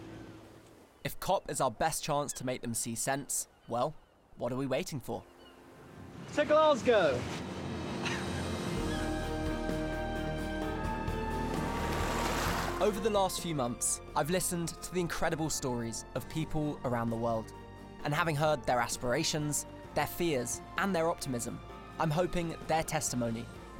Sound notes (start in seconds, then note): 7.5 chuckles; 9.7 bright music